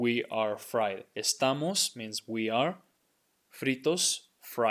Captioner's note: speaking in Spanish